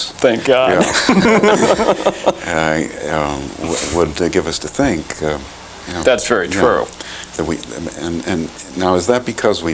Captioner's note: laughter